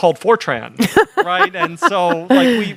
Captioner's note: laughing